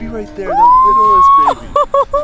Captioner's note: laughing happily